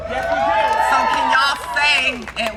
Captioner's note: crowd cheering